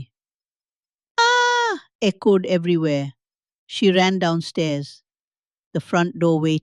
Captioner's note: screams